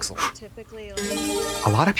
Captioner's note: bright chime